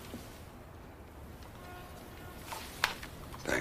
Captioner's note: none